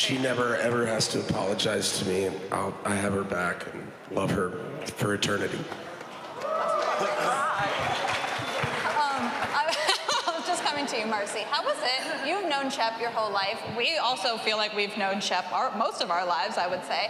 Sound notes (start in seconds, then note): 6.2 cheering and applause; 9.3 laughs